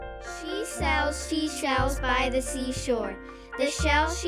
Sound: voiceover

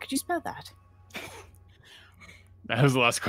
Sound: players laughing

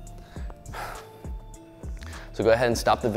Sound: exhales

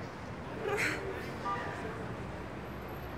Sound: chuckling

